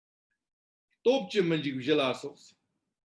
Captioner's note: tibetan